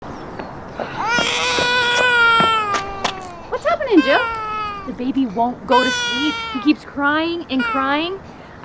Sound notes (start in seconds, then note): 0.8 crying sounds